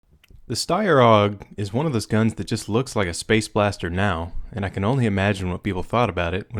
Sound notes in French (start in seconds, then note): 0.5 Voiceover